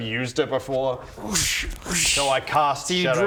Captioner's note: whoosh whoosh